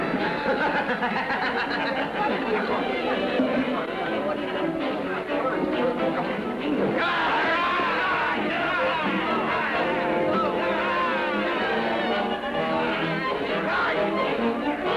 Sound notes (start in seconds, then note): 0.0 men laughing; 6.9 men yelling; 7.3 pensive orchestra music